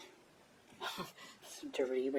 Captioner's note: chuckle